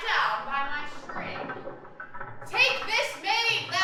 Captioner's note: chains of the well rattling